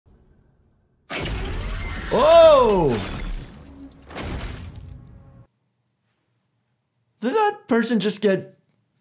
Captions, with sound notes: (screaming) - Oh! (crunching, squelching) Did that person just get,